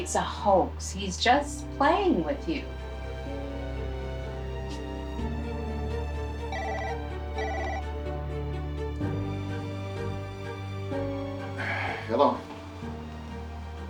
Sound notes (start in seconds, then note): 4.2 dark music; 7.3 phone ringing